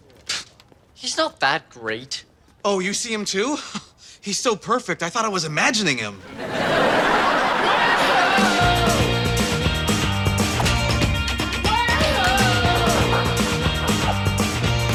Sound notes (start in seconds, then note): 6.2 audience laughter; 8.8 upbeat music